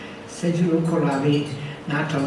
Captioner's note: speaks foreign language